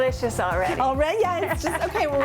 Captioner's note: laughs